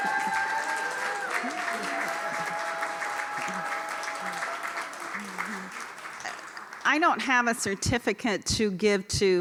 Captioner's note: cheers and applause